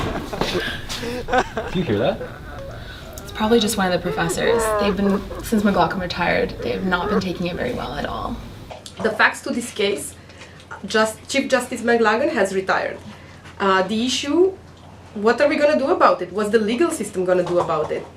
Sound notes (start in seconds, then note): 2.4 sobbing